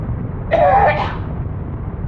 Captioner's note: coughs finally stop